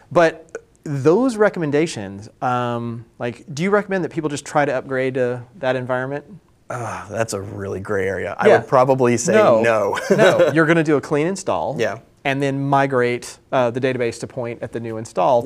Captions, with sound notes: But those recommendations, do you recommend that people just try to upgrade to that environment? >>[sighs] That's a really gray area. I will probably say no. >>Yeah, no. No, you're going to do a clean install. >>Yeah. >>And then migrate the database to point at the new install